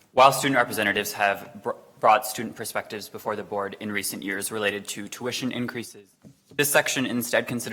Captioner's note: none